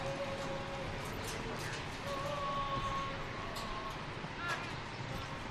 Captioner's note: military commands off mic